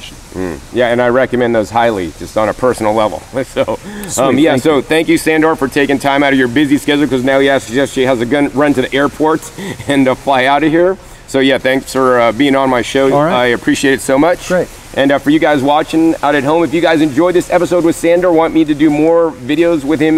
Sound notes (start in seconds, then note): 3.5 laughs